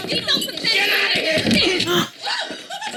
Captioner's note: gasps, laughs